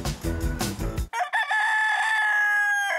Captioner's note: rooster crows